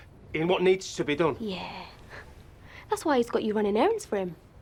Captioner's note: scoffs